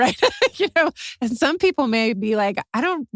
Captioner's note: laugh